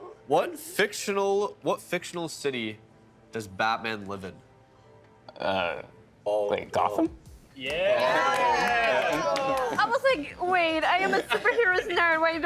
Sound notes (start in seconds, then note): 7.6 all cheering